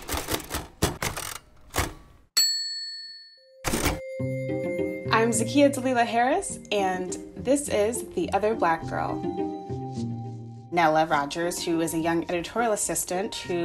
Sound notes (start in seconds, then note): 0.0 typewriter tapping; 3.6 typewriter dinging; 4.0 contemplative music